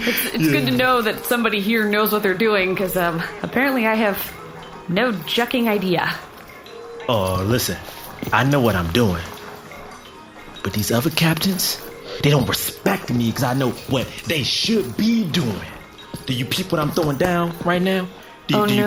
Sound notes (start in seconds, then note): 9.4 hushed